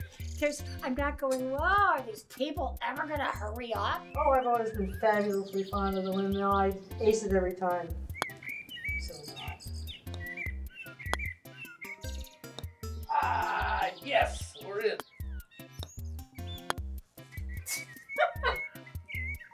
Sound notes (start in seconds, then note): 18.1 laughs